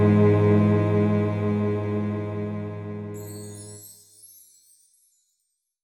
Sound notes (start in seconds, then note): 3.2 graphics chiming